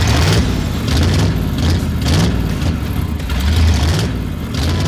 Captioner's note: car engine revving